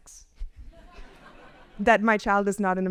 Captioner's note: audience laughs